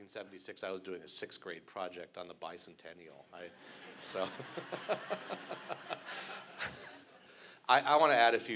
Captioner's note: laughter